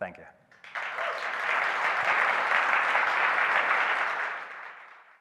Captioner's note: audience applauding